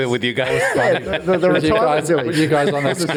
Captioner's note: all laugh